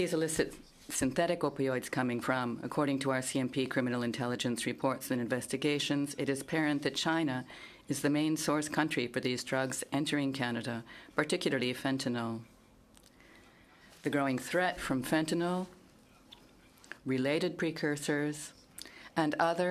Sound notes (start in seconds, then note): 2.1 speaking in French